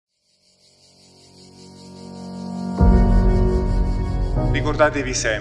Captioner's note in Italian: rumori della natura